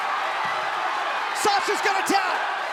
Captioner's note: crowd cheering